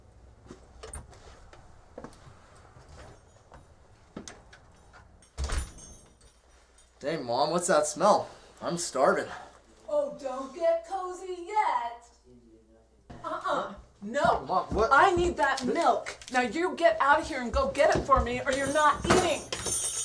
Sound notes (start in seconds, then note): 0.8 door opens; 5.3 door closes